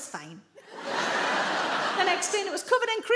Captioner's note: audience laughing